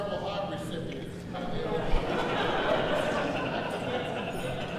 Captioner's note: audience laughs